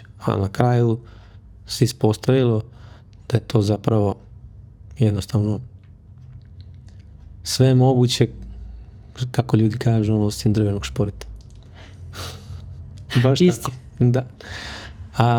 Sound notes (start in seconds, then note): 11.7 gasp; 12.2 sigh